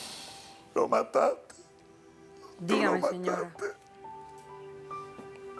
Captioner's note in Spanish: Sollozos